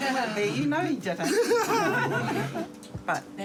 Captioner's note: laughs; laughter; laughs